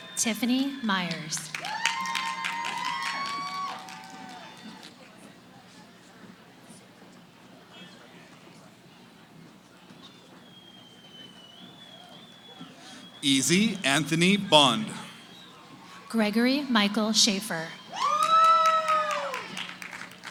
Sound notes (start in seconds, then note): 2.1 cheering; 4.6 background conversations; 17.2 cheering